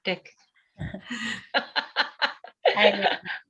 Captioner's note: laughter